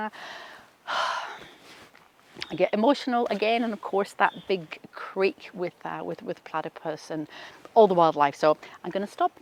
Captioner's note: sighs